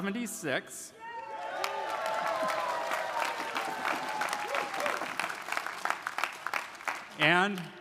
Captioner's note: audience cheering; audience applauding